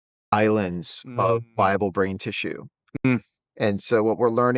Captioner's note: hums